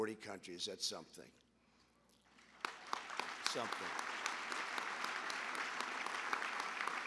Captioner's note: applause